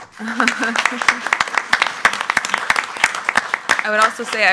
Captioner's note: board claps